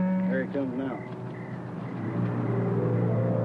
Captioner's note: pat; mysterious music